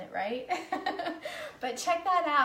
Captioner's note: laughs